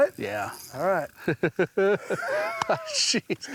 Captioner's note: both laughing